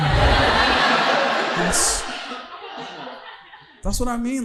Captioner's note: audience laughing